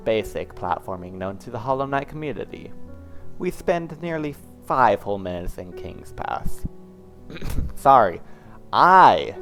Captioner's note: fake-cough